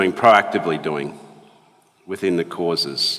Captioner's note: none